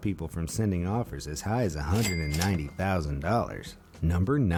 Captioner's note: cash register ringing